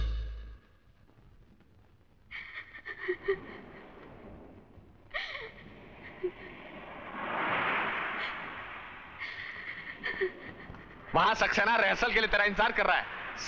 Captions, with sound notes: (Sobbing) Saxena is waiting for you for the practice.